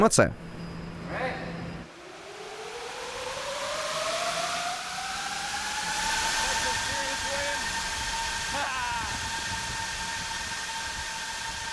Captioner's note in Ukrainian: гучни́й звук пропелерів